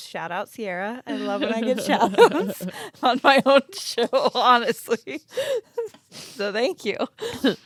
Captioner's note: laughs